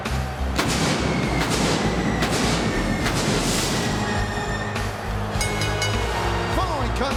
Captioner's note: fireworks exploding; bell ringing